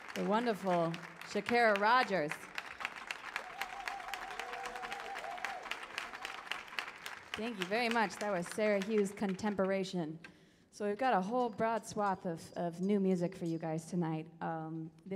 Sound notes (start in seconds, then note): 2.5 audience cheers